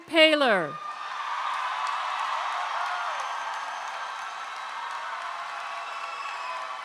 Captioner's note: crowd cheers; crowd claps